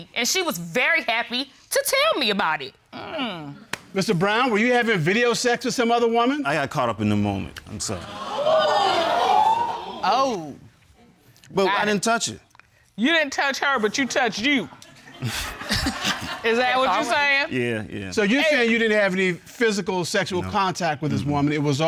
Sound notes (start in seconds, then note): 8.0 audience gasping